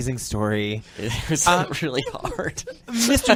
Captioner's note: laughs